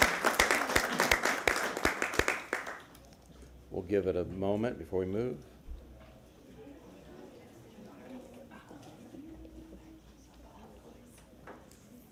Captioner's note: applause